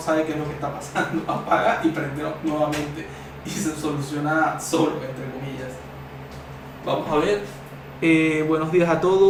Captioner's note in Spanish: risas